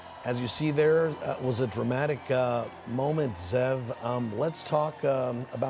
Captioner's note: cheering